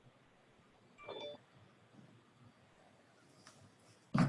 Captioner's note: phone chimes